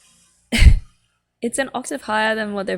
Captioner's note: laughs